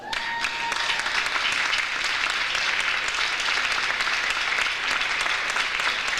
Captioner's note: audience applauds; audience cheers